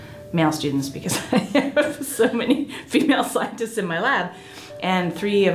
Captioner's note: laughs